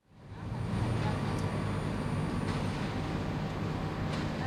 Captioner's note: truck engine buzzing